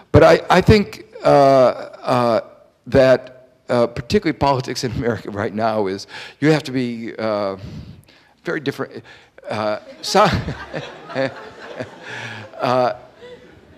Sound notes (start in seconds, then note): 9.7 audience laughing; 9.8 laughs